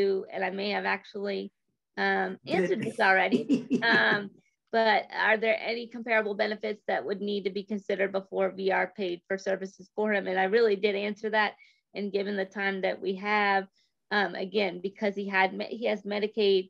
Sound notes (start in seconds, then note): 3.3 chuckles